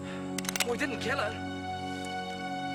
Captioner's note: gun cocking; dramatic music